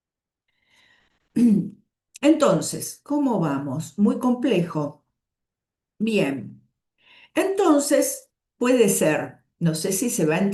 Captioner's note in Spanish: carraspeo